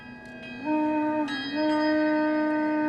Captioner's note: gentle ambient music; soft blowing sound continues